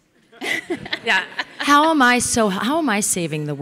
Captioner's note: audience laughing